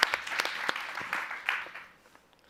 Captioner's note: applause